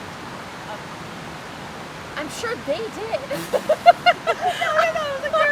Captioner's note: laughs